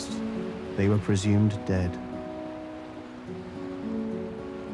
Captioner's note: ocean softly lapping; tranquil music continues